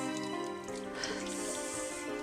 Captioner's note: exhales sharply; somber music continues